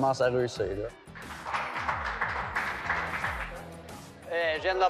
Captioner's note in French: applaudissements